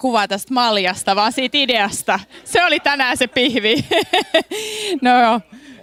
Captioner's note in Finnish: naurua